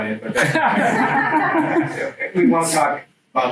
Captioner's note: students laugh